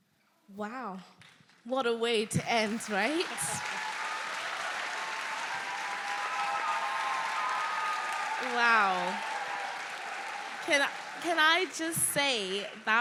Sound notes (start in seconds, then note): 2.4 audience cheering; 2.5 audience applauding